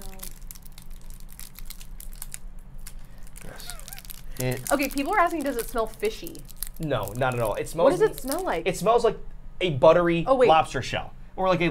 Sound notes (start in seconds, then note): 0.1 wrapper rustling; 3.4 laughing